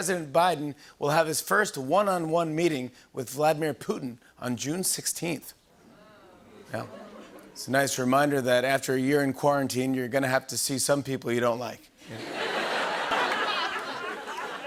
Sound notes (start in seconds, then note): 5.8 audience "Oohs"; 12.0 laughter